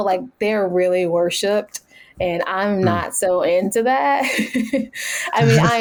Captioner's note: laughs